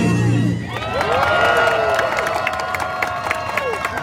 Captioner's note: crowd cheering